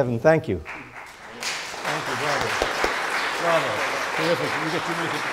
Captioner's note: audience applauding